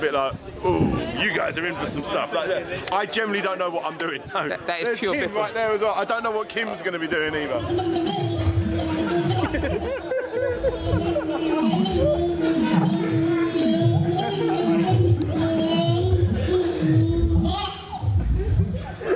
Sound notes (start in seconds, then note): 9.6 laughter; 15.6 huge laughter